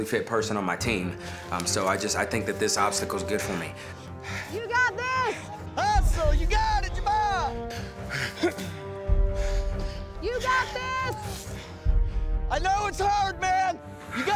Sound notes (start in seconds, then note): 7.7 grunting